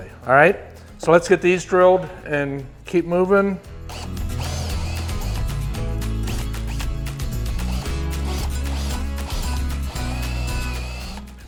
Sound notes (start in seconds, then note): 3.8 drill whirring; 4.1 upbeat music